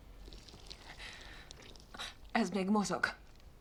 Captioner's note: squishing sound